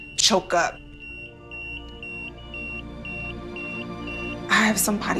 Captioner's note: patient monitor beeping